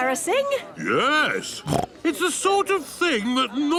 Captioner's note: snorts